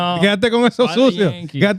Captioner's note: speaking In Foreign Language